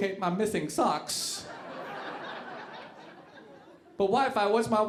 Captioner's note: audience laughing